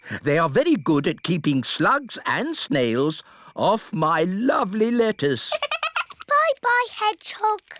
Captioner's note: giggles